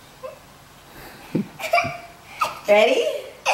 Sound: laughing

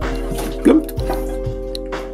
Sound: mimics splash sounds

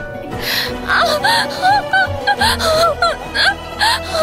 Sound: screaming

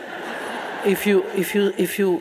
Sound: audience laughing

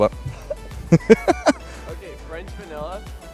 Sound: laughter

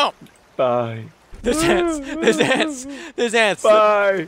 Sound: Hwang weeping

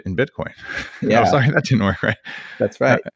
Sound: laughs

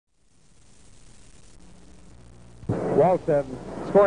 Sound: arena background noise throughout entire video

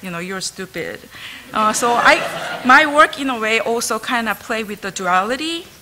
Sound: laughter

